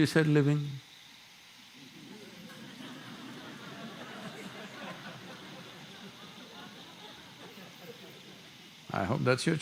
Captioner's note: laughter